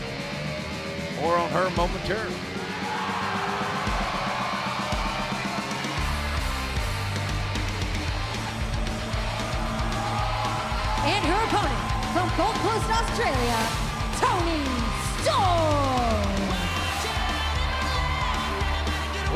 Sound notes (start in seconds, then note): 4.4 cheers and applause